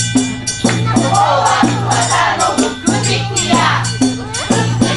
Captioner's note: chants